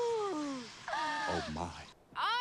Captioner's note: gasps